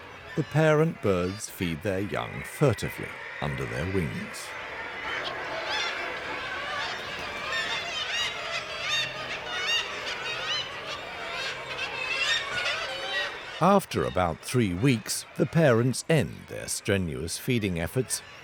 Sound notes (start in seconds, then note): 4.7 birds squawking